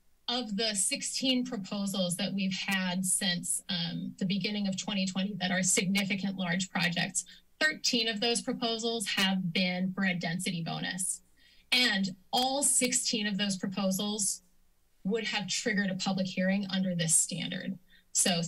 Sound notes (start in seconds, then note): 0.0 pause; 11.4 inhales